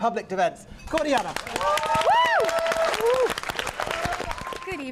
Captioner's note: applause